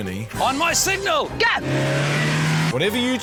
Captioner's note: engine revs